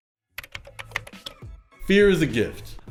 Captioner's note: keyboard keys clacking